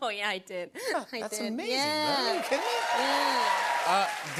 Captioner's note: cheers and applause